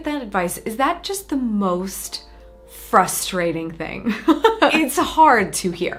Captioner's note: chuckles